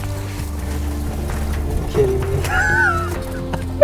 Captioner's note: laughter